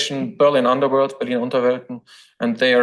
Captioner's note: foreign language